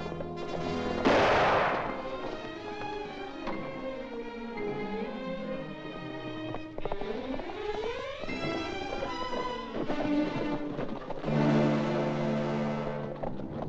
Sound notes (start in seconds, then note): 1.0 gunshot; 3.3 suspenseful music; 6.3 dramatic music; 6.3 hooves pounding; 11.3 dramatic music; 13.5 hooves pounding; 13.5 suspenseful music